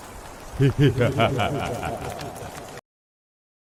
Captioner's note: evil laughter